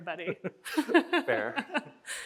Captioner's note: both chuckle